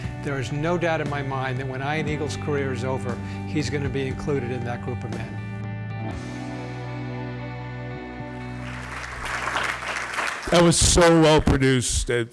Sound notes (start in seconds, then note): 8.5 applause